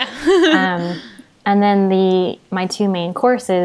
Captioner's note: they laugh